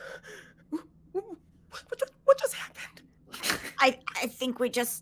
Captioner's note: snickering